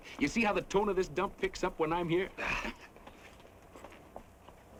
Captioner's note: chuckles